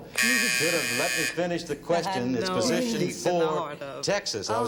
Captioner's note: buzzer